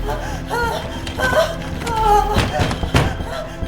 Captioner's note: Caroline moaning; door banging